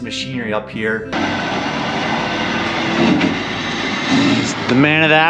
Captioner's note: truck running